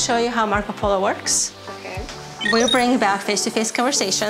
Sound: digital tone

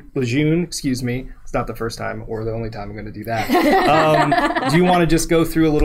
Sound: laughing

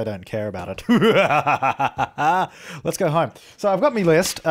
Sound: evil laugh

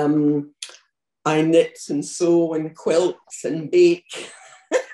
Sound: laughs

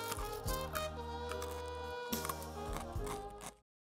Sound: munches

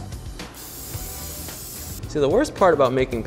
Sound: spray can hissing

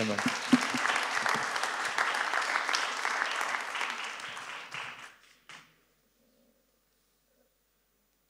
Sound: applause

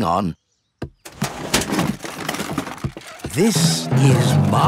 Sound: clattering

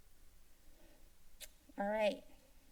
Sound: pause; tongue clicking

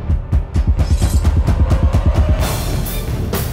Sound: intense music; sword scrapes against scabbard; action music

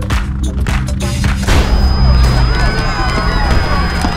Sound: gunshots; high-pitched ringing; crowd clamours

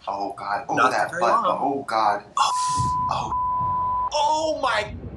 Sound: beep

